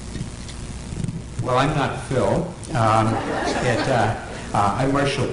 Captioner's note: laughter